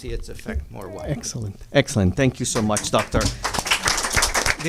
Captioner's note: applause